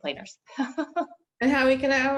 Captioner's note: chuckles